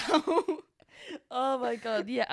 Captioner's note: both laughing